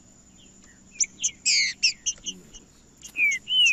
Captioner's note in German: trinca ferro cantando